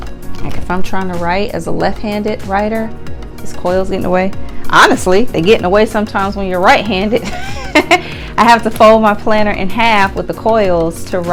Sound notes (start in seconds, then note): 7.9 laughs